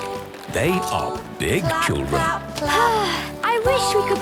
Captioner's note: Belinda sighing